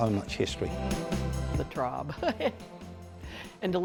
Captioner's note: chuckles